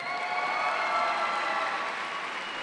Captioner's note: applause